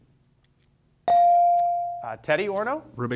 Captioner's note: bell sounding